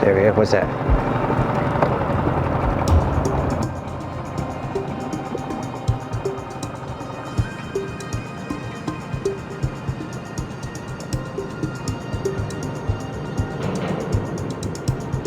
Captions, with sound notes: Wait what was that? (motor running) (soft suspenseful music)